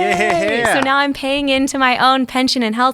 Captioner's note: laughing